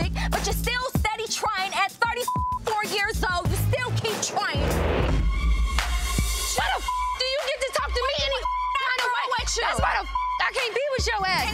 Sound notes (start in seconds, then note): 2.2 beep; 7.0 beep